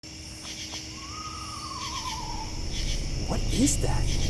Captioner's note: ghostly trilling